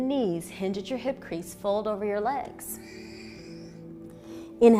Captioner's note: exhaling